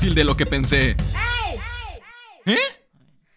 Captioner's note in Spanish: grito de fondo